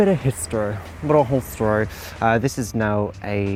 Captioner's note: overly posh accent